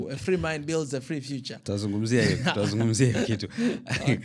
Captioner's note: laughter